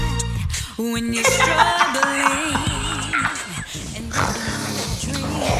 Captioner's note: hysterical laughter